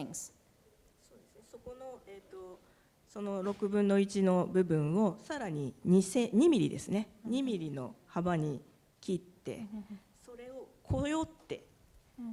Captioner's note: speaking japanese